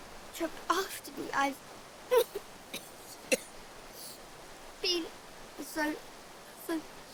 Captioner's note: coughing